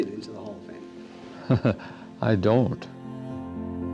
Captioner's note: laughs